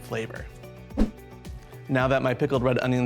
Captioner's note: air whooshes